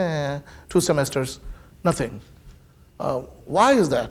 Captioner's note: groans